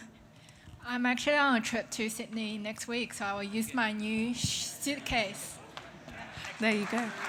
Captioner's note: applause